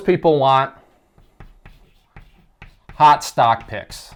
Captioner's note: chalk writing